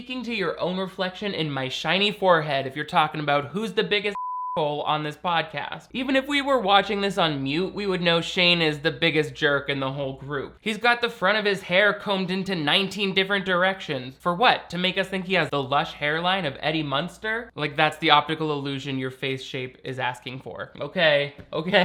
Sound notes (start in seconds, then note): 4.1 beep